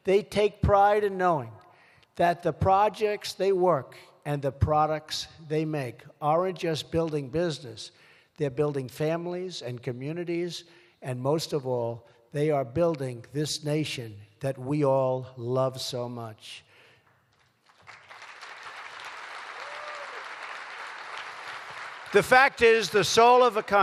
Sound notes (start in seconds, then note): 17.0 applause